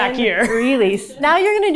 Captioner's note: producer chuckling